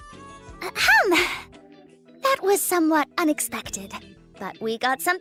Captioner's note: ahem